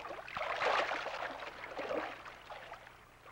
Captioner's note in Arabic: none